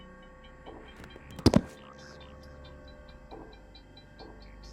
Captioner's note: body thudding